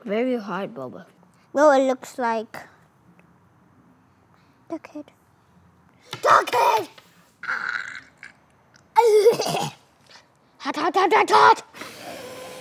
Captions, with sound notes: Very hard boba. It looks like duck head. Duck head! (coughs) Hot hot hot hot hot!